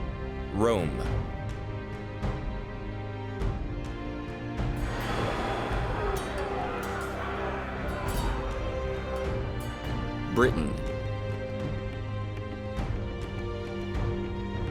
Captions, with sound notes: Rome. (shouting and clashing of swords) Britain.